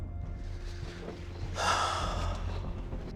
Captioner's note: sighs